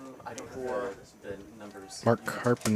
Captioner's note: indistinct chatter